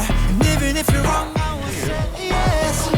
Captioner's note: startled